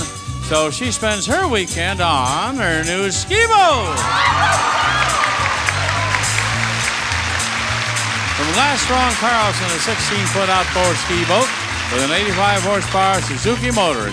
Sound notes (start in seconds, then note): 3.8 audience cheering; 3.8 upbeat music